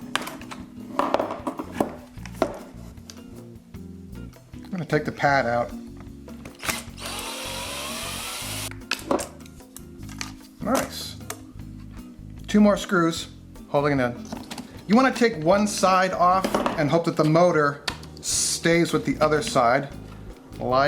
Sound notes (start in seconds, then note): 6.6 drill buzzing